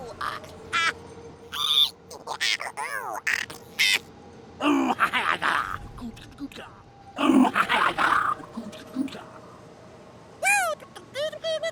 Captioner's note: Dee Bradley Baker noises